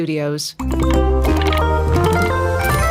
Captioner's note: Mojang sound